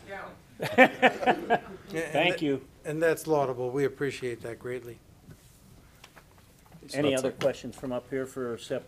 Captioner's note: laughter